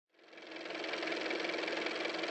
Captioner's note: car motor